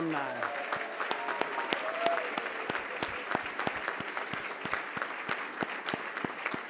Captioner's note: applause